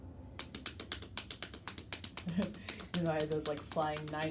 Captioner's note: hands tapping